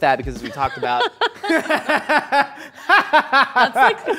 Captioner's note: both laugh loudly